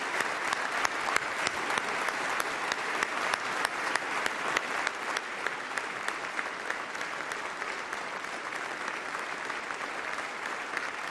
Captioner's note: applause